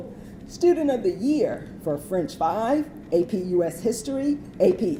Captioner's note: none